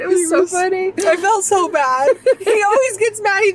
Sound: laughs

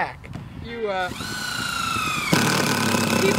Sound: loud drilling

